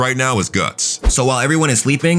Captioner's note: air whooshing